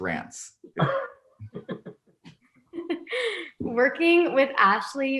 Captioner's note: laughing